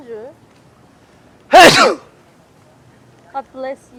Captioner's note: sneezing!